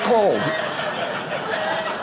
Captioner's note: audience laughing